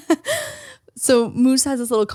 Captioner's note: laughs